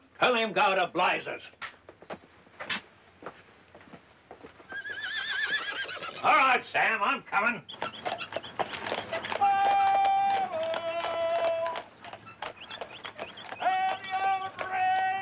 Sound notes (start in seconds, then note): 4.7 horse neighing; 7.7 horse clopping